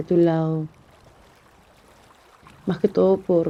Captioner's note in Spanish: Silencio